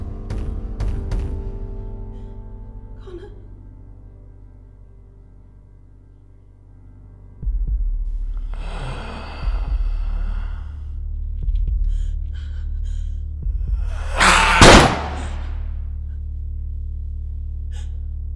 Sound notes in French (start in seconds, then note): 8.5 Connor respire bruyamment; 14.4 Connor rugit. Coup de feu